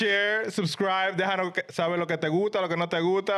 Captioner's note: speaking In Foreign Language